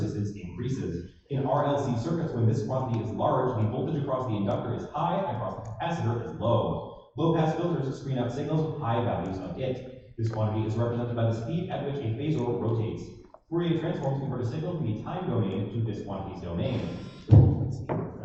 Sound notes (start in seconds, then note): none